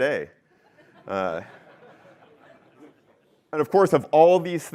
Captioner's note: laughter